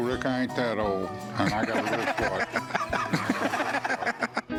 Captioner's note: laughter